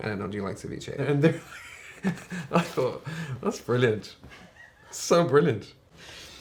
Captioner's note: laughs